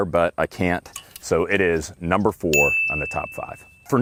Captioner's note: bell ringing